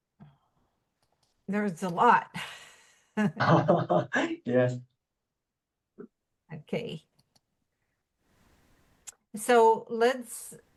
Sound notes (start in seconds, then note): 3.4 chuckle